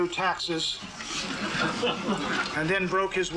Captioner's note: laughter